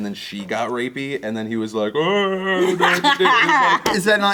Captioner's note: groans; laughter